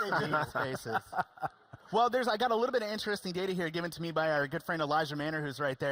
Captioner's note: laughing